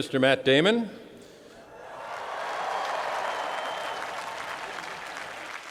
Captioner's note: crowd cheering